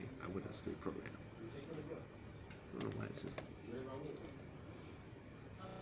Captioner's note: clicking